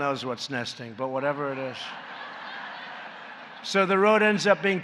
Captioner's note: laughter